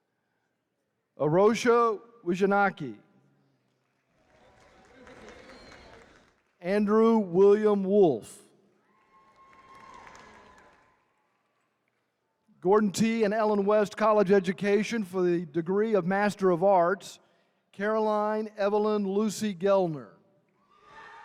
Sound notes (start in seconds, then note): 8.8 attendees cheering; 20.6 attendees cheering